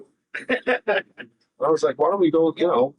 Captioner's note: laughing